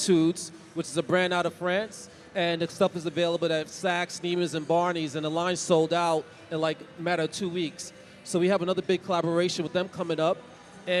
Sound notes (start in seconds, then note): none